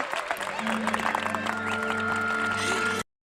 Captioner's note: audience cheering and applauding